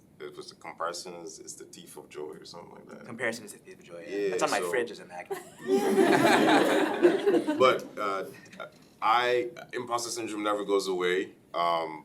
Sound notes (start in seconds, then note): 5.3 laughing